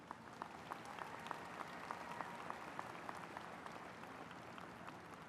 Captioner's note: audience applauds